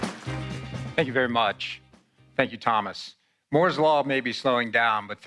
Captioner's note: applause